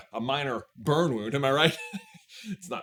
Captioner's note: chuckles